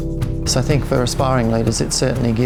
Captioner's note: voiceover